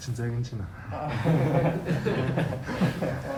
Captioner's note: laughs